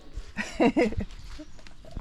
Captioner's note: chuckles